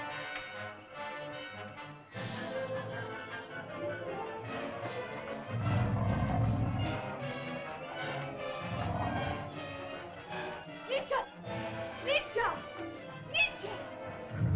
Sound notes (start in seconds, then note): 0.1 suspenseful music; 5.3 dinosaur growls; 5.4 suspenseful music; 14.2 dinosaur growls; 14.3 suspenseful music